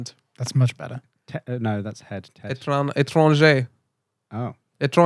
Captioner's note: speaking French